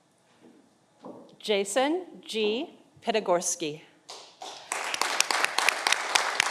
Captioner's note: audience applauding